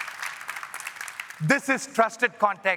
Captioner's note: applause